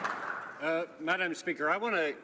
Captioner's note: some Applause